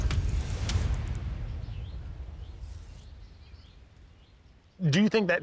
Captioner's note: soft, tense music; birds chirping